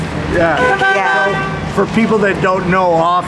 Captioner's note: car hoots